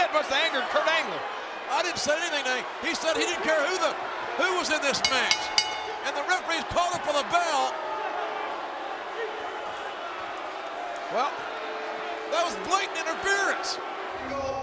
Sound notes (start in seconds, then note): 5.0 bell ringing